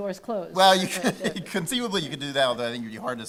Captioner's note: laughing